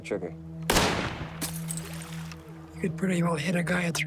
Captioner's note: gunshot